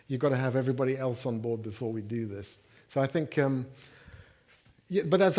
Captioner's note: none